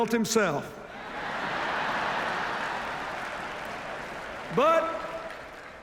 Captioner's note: laughter, applause